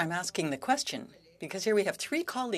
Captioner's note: speaking French